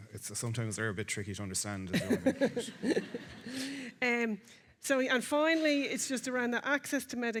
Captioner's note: laughing